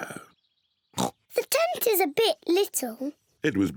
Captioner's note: oinks